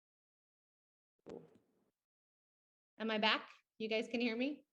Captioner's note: lost audio